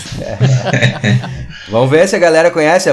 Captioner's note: laughs